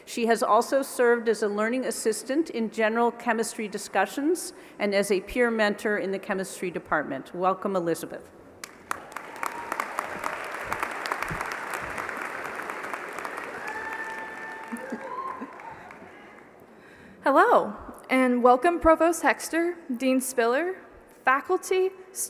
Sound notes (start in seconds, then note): 8.6 applause